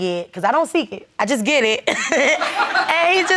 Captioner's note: laughs